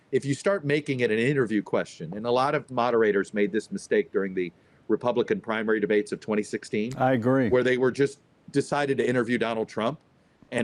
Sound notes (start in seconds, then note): 7.0 pat